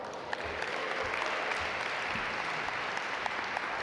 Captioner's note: audience applaud